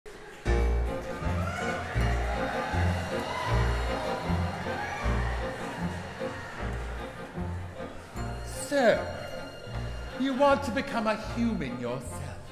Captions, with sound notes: (jaunty music) (audience cheering) - So, you want to become a human yourself.